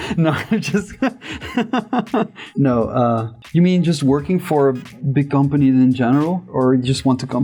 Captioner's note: laughter